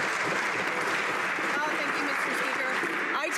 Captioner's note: some Applause